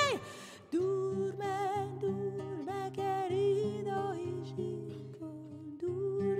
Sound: at a whisper

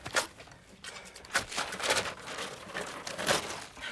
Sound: pictures scraping

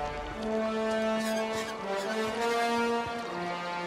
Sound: creaking

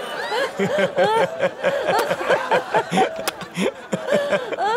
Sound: laughs

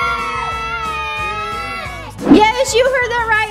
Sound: screaming; kids In Unison

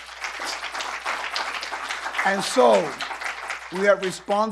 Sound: applause

